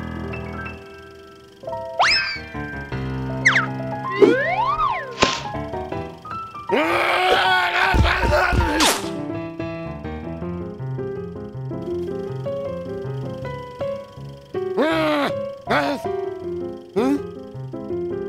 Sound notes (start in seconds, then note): 6.7 growling grumbles; 14.8 frustrated grumbles